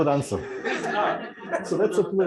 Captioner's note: laughter